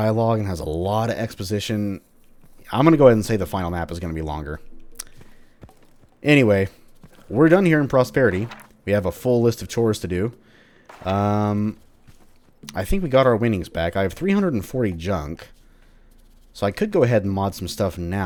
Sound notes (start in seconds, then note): 7.1 journal opens; 7.9 journal closes